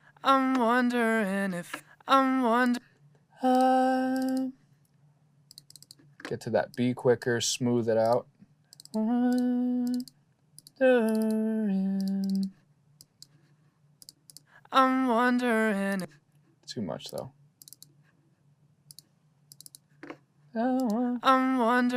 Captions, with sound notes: [VOCALS PLAYING] Get to that be quicker, smooth it out. [HUMMING] [VOCALS PLAYING] Too much, though. [VOCALS PLAYING]